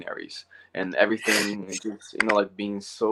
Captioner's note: sneezes